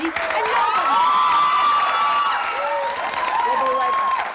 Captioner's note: cheering